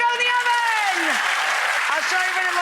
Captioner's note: audience applauding